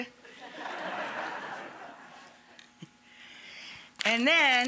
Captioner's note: audience laughing